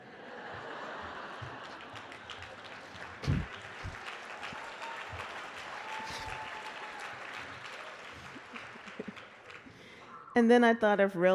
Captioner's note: laughter and Applause